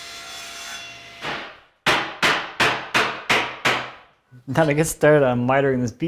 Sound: hammer knocks

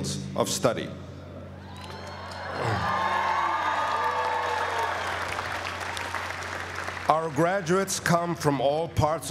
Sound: applause

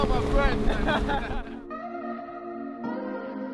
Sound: laughing; smooth electronic music

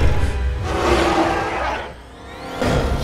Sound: T. rex roars

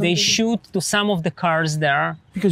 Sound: speaking in foreign language

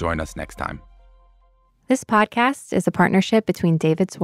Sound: radio Voice

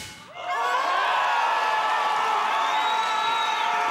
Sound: crowd cheering

